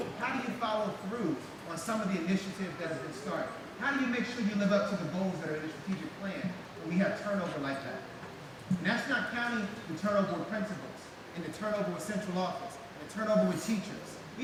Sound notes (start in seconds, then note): none